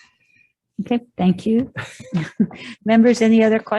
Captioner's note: laughs